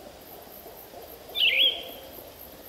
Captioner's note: birds chirping